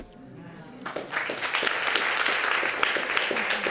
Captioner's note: applause